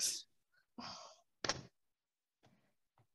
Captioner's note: MORGAN Sighs